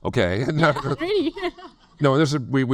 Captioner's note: laughs